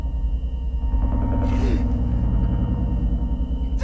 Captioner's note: Mark crying